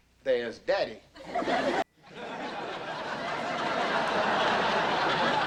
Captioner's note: audience laughing